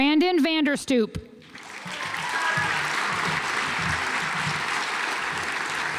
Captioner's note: audience applauds